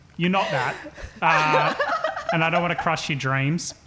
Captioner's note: laughing